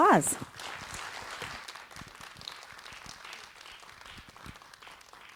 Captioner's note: audience applauds